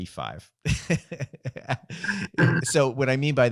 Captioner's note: laughing